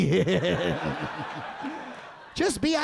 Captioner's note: audience laughing